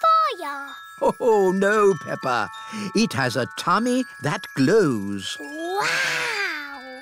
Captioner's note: laughs